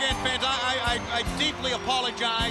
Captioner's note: crowd cheering